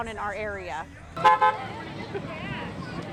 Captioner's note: horn honking